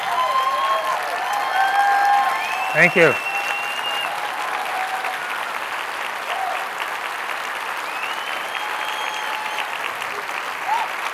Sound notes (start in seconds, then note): 0.1 applause; 2.9 cheers and applause